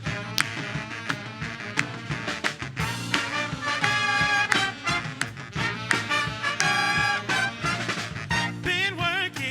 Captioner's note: applause